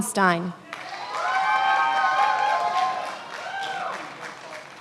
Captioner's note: many applauding